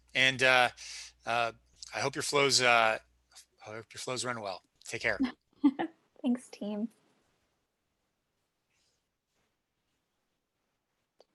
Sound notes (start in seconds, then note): 5.6 giggling